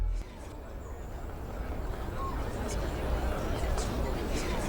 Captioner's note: wizards talk amongst themselves